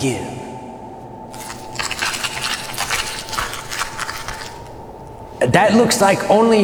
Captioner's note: crackling noise